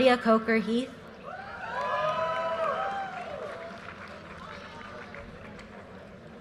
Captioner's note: audience cheers and applause